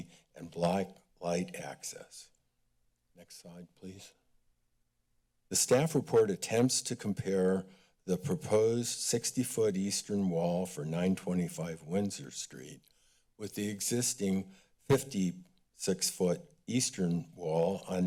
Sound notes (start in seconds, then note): none